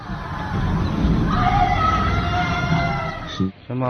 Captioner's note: woman screaming